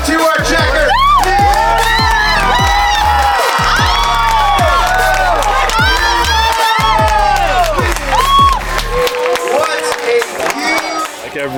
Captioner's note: cheering